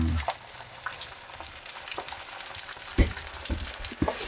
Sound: eggs sizzling

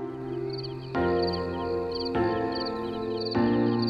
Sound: crickets chirping

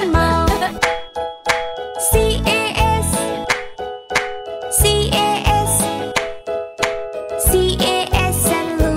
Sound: clap

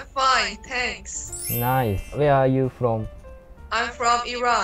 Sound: with a strong Japanese accent hehe

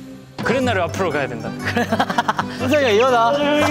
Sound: laughing at their details

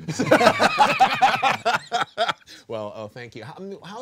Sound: group laughing

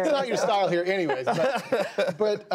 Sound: laughter

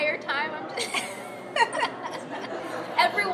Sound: laughs

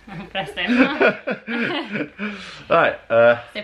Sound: laughter

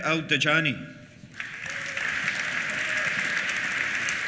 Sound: applause; cheers

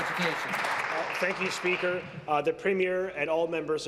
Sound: applause

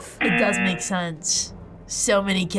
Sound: buzzer rings

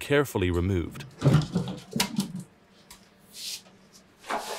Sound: parts thumping

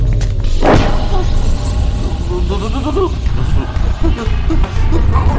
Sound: Nathan whimpering

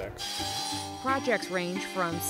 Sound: saw buzzing

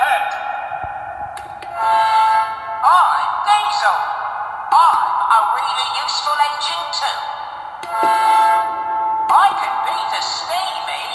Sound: horn blows

